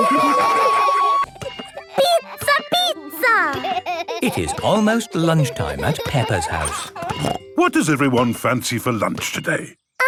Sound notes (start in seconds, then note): 5.3 laughing